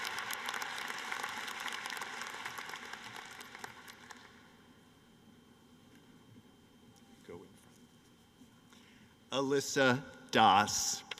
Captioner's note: cheering and applause